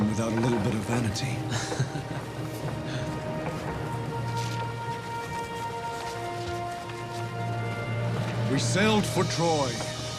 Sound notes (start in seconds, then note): 1.4 both laughing; 2.2 gentle music